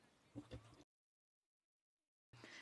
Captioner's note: speaking French